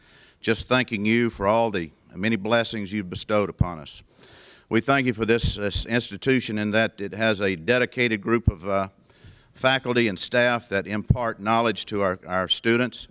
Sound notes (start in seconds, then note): none